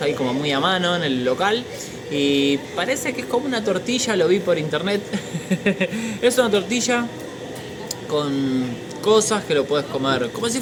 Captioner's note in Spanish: risas